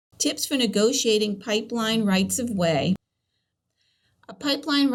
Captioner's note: voiceover